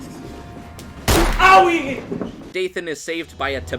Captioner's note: gunshot